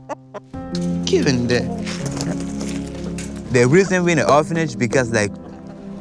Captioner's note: chickens clucking; somber music